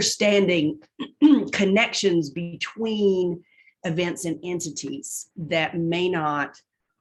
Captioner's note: cough